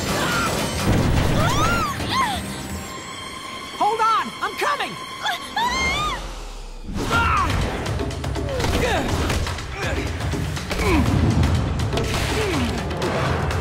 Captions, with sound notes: [screaming] Hold on, I'm coming! [screaming] [grunting] [grunting]